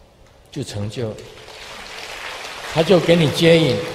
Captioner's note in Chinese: 眾鼓掌